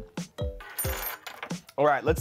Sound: metal fork clanks

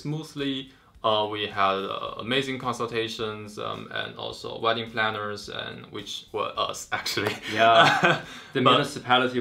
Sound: laugh

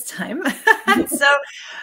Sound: laughing

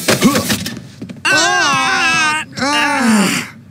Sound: mordecai grunts; both groaning

